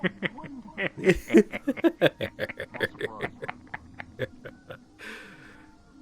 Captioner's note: laughing